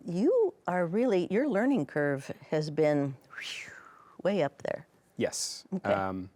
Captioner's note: whistles